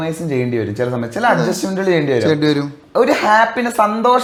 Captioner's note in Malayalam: തൊണ്ട ശരിയാക്കുന്നു